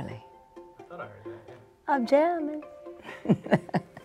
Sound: chuckles

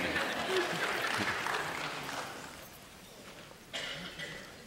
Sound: applause

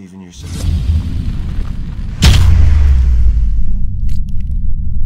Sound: fireballs exploding

